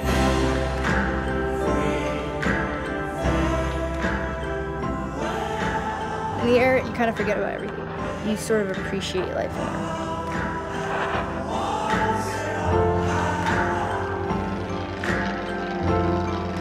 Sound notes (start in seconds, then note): 14.5 airplane rumbles